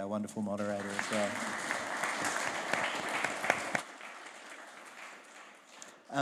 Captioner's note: applause